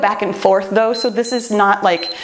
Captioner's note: timer beeps